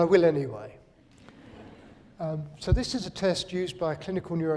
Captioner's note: laughter